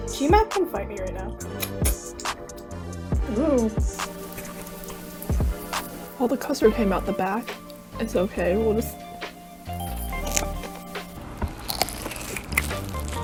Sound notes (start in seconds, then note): 1.4 finger sucky sounds; 9.8 chomp